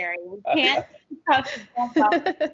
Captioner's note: audio distortion; laughing